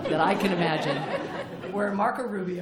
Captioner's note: laughter